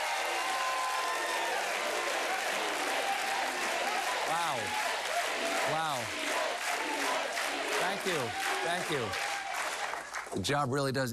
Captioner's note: cheers and applause